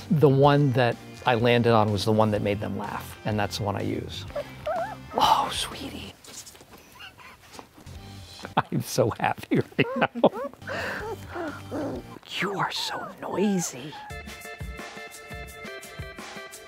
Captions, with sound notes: The one that I landed on was the one that made them laugh, and that's the one I use. (puppy whimpers) Oh, sweetie. (laughs) I'm so happy right now. (puppies growl) You are so noisy. (upbeat music)